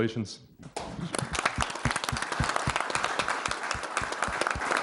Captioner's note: everyone clapping